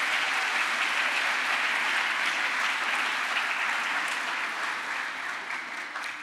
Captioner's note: crowd applause